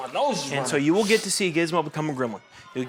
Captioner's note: Desmond mumbles